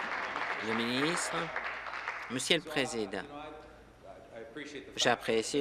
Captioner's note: applause